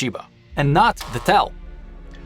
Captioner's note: buzzer